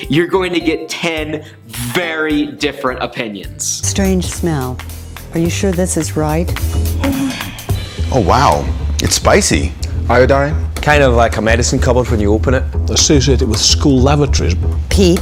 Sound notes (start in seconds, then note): 4.7 jazzy music; 6.9 woman groans